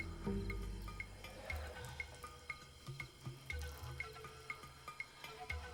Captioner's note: trickling